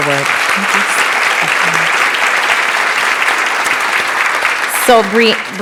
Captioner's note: applause